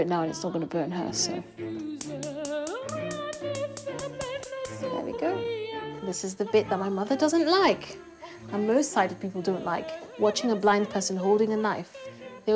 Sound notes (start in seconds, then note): 1.8 hob clicks and ignites